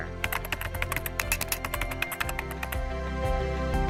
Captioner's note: clicking; light piano music